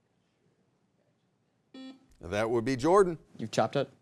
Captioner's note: buzzer beeps